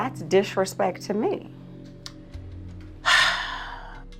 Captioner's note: sighs